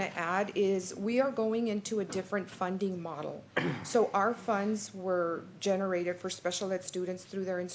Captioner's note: clears throat